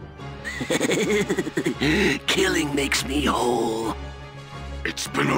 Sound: evil laugh

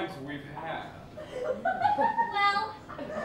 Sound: laughter

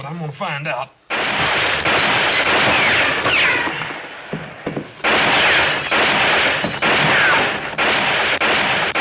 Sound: gunfire continues

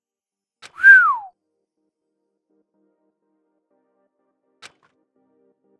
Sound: whistles

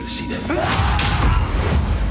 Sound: screams

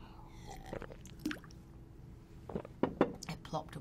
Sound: water plopping

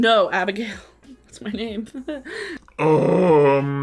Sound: chuckling

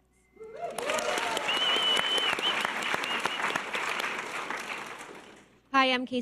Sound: audience cheers and applause

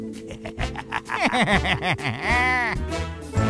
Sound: flabby laughter; boney laughter

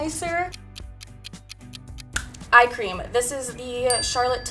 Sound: clock ticks

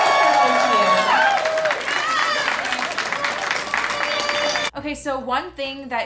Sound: guests cheer and clap

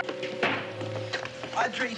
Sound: door clacking

